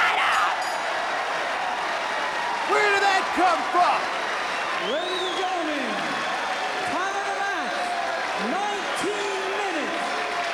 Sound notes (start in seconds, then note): 1.3 crowd cheering